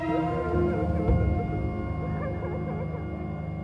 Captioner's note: gentle instrumental music; crying